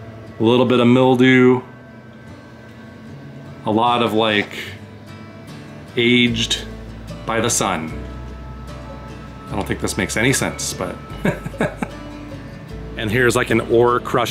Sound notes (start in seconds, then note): 11.2 laughter